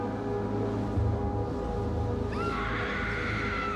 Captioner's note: screams